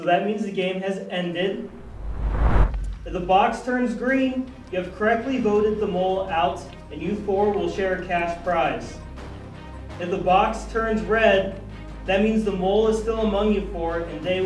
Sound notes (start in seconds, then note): 1.6 screen whooshes